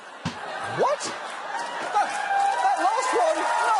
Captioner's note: audience laughing